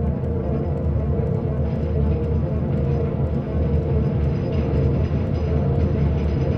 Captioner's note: gentle dramatic music; rattling train